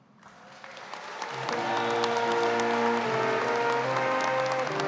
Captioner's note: audience claps